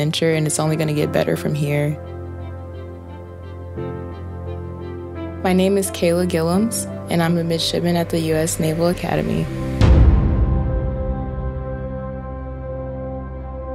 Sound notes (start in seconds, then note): 9.9 loud bang; 11.0 music resolves